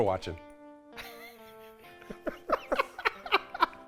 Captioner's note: both laugh